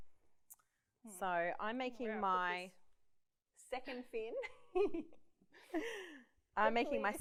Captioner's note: laughs